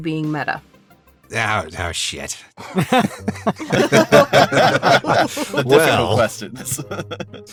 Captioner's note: laughs